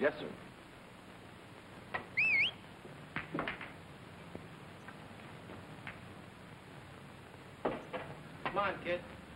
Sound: whistle

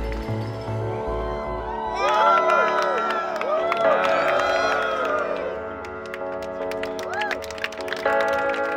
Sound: applause, cheering

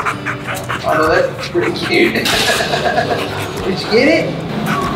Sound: chuckling

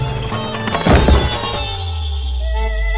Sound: clanking

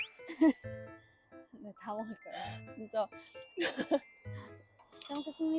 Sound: laughing

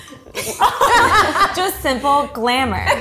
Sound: laughing

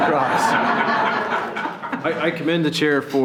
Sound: laughing

